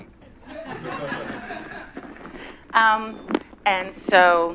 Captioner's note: laughter